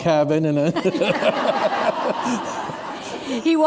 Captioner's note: laughter